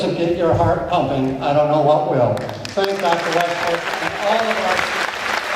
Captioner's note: applause